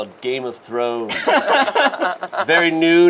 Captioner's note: group laughs